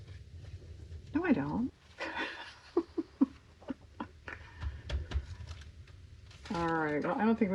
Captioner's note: laughs